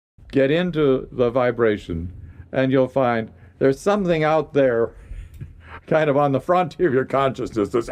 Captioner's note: laughs